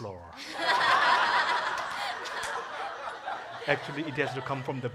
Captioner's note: congregation laughing